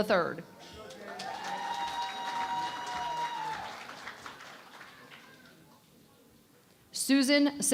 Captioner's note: cheering and Applause